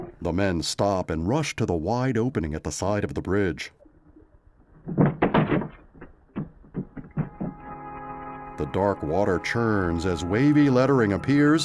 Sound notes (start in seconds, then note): 1.3 water bubbling